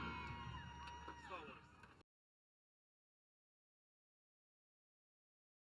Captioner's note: audience applauding